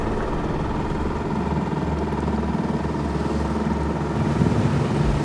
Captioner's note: boat engine revving